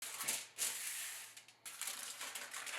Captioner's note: foil crinkling